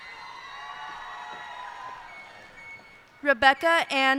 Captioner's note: cheers and applause